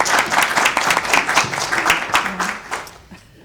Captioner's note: applause